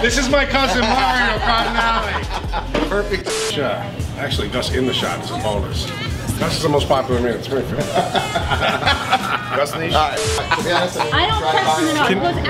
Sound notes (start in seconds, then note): 0.2 laughing; 3.2 static; 3.2 offline beep; 7.7 laughs; 10.0 static; 10.1 offline beep; 11.0 people talking loudly